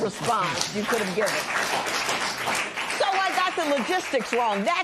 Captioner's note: applause